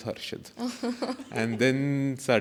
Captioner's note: laughs